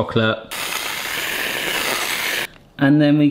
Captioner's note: cream whooshing